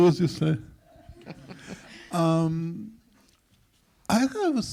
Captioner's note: all laugh